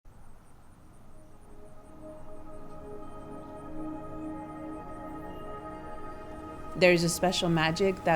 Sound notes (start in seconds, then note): 0.0 insects buzzing; 0.9 peaceful music